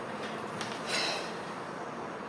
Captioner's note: PENG exhales